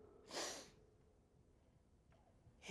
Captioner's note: sniffs